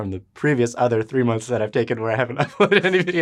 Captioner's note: laughs